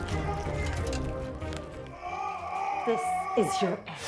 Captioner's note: yelling